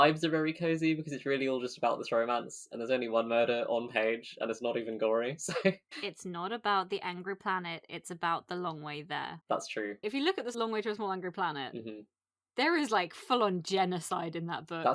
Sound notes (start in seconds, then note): 5.5 laughs